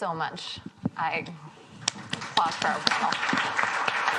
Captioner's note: applause